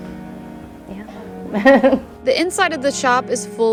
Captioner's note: laughing